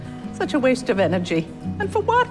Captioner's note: voiceover